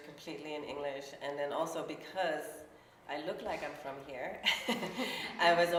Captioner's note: laughs